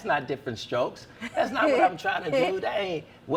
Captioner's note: laughs